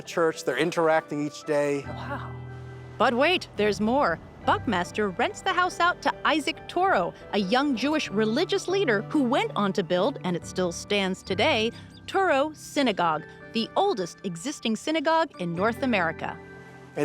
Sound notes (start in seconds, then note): none